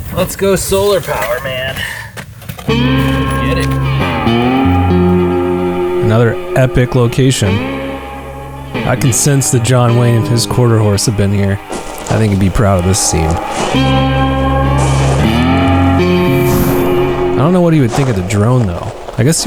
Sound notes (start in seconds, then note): 3.0 somber music; 6.2 voiceover; 13.8 footsteps rustling